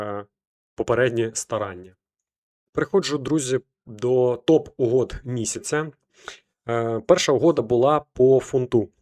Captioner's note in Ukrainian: сопіння